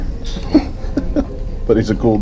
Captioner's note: chuckling